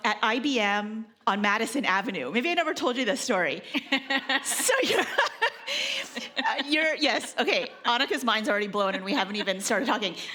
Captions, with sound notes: at IBM on Madison Avenue. Maybe I never told you this story. (laughing) Yes, okay, Anicka's mind's already blown and we haven't even started talking.